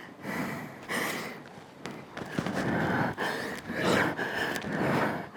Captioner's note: breathing heavily